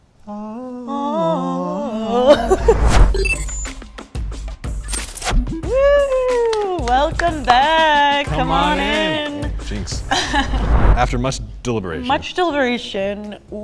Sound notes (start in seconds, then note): 2.8 digital beeping; 10.0 laughing